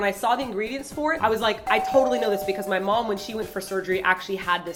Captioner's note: doorbell sound